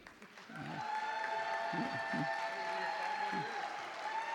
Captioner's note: audience clapping